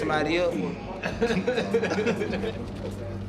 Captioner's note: laughing